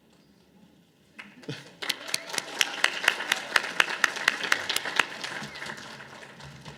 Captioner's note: audience applause